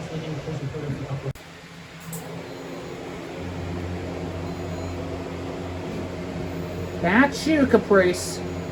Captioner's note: "21Alive News at 4" plays in background; Air tag beeps on Caprice's collar